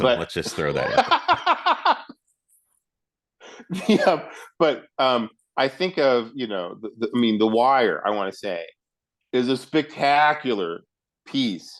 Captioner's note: both laugh